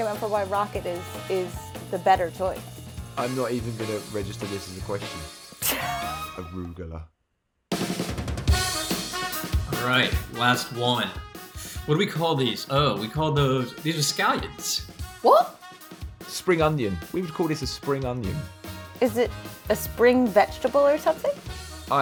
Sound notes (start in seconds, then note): 5.6 laughs